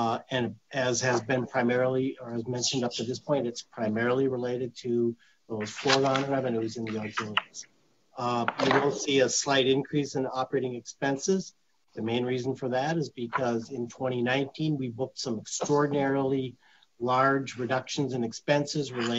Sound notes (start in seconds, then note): 5.6 papers crinkling